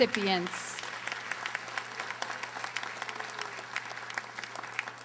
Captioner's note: audience applauding